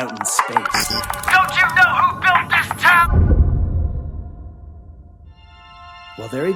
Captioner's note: airlock woosh